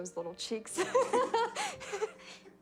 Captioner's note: laughs